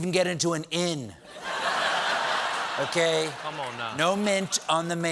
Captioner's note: laughter